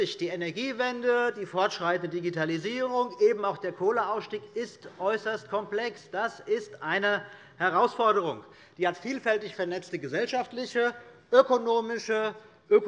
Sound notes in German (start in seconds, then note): none